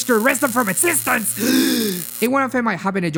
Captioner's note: inhales